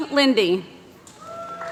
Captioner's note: applause